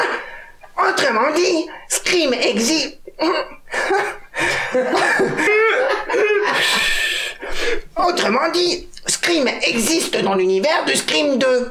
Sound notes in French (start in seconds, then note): 3.7 Rires